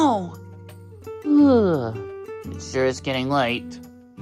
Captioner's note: yawns